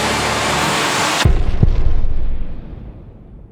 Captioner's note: loud blast